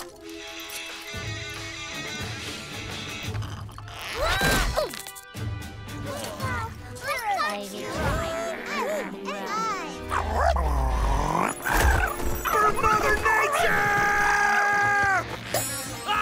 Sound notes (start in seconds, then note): 4.1 screams, grunts; 5.5 murmuring; 9.6 sputtering